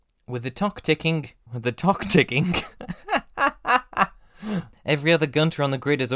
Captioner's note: laughs